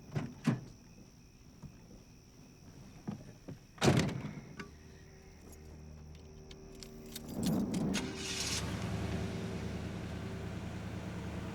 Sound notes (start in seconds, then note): 3.8 door thudding; 7.9 engine revving